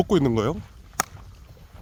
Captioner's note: clap